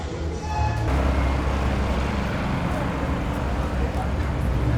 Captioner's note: machinery rumbling